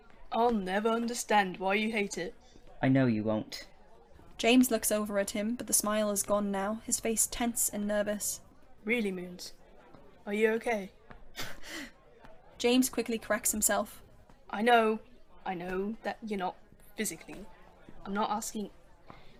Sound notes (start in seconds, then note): 11.3 Remus lets out a dry laugh